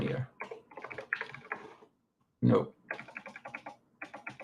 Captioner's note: keyboard clacking